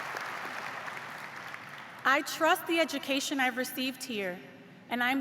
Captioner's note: cheers and applause